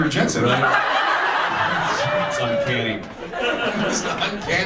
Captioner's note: audience laughs